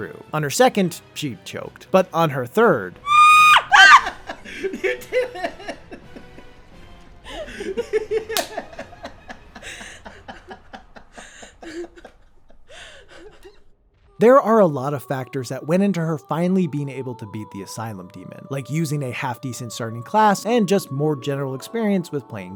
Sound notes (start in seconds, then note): 3.0 panicked yell followed by shocked yell; 12.8 laughing